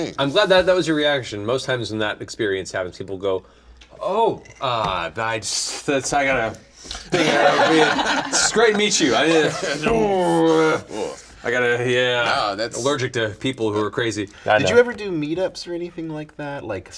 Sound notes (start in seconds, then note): 3.8 stammers; 5.8 groans